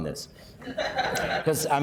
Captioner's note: laughing